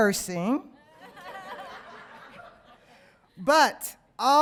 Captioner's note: audience laughing